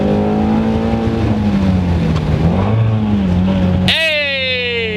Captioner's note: car engine